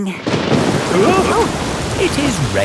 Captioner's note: thunderclap; parents gasp